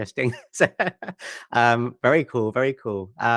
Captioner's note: laughs